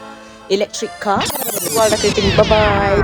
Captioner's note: rewind sound